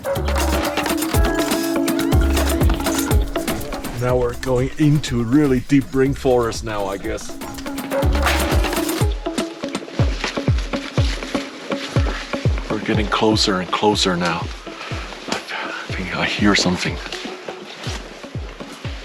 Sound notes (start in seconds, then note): 0.1 upbeat electronic music; 8.5 leaves rustling; 8.5 upbeat electronic music